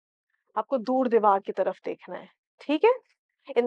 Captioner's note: in Urdu